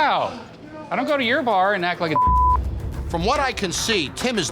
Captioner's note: beep